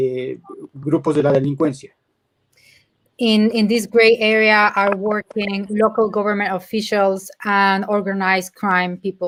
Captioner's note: speaking in Spanish